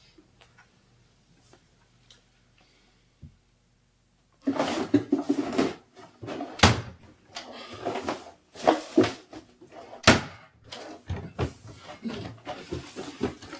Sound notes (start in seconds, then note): 4.4 drawers opening and closing; 4.5 rustling